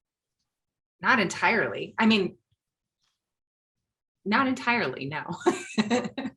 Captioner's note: chuckling